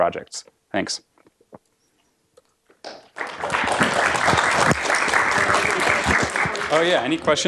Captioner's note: applause